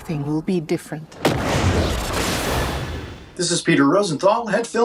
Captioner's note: lightning crashing